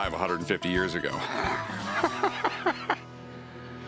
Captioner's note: laughs